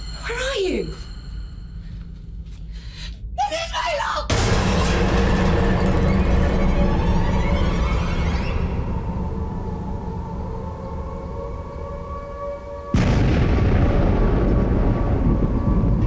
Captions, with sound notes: Where are you? MRS BAYLOCK! [AIR RAID SIREN] [EXPLOSION]